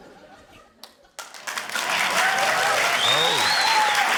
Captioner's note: cheering, applause